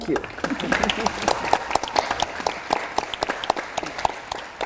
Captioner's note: audience applauds